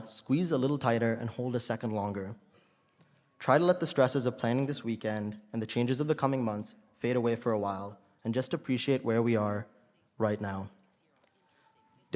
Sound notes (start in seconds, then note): none